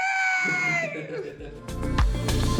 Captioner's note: laughs; upbeat music